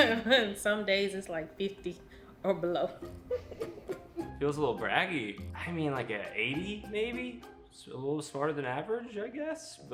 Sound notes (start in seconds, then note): 0.0 chuckling; 3.2 laughing